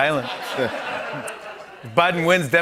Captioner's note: laughter